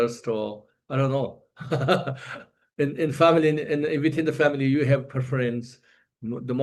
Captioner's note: laughs